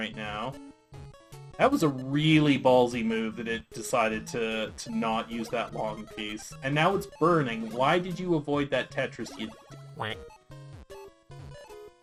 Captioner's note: quack* Sound